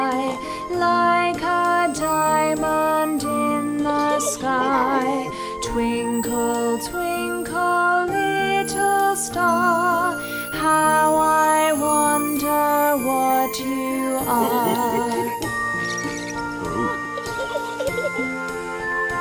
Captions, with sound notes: --the world so high, like a diamond-- [chimes] --diamond in the sky. Twinkle, twinkle, little star-- [chimes] --how I wonder what you are. [children giggling] [dad giggling] [wheels on telescope squeaking] Ooh.